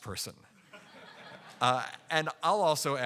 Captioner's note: audience laughing